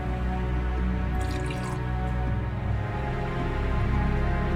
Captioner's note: pouring water